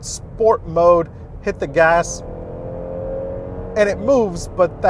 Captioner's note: engine revs